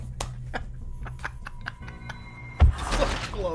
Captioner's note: angry Laughter